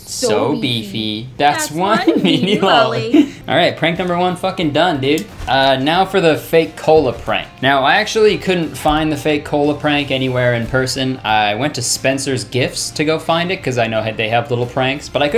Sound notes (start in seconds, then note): 3.3 laughing